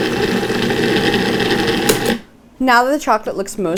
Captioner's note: food processor whirs